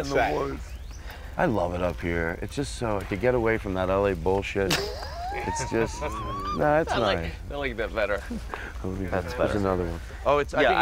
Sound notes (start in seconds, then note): 4.6 laughter